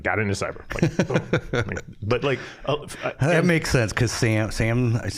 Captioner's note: chuckling